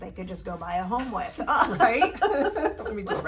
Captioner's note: both laugh